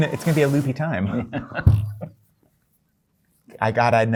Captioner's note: laughter